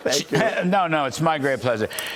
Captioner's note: laughter